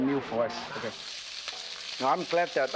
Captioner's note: sizzling